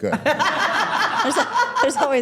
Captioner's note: all laughing